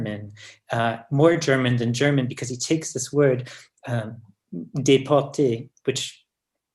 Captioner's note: french